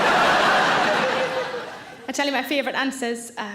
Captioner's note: audience laughs